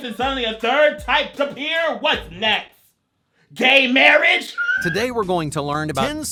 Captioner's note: laughs